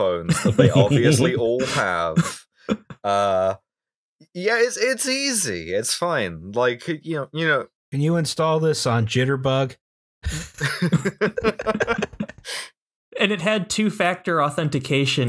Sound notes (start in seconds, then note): 0.2 laughter; 10.3 laughter